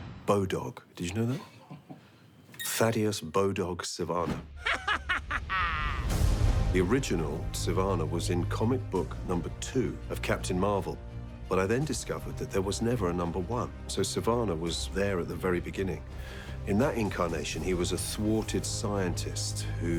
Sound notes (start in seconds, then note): 0.9 interviewer laughing; 4.6 Dr. Sivana laughing